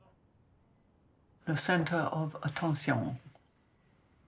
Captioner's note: french